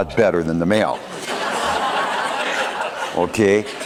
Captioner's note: laughter